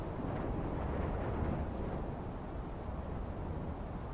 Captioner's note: wind blowing